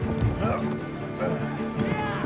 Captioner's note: grunting